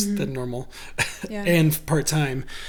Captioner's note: laughs